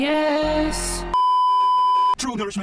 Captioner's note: beeeeeeeeeeeep